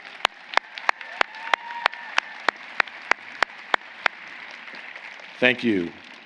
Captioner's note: applause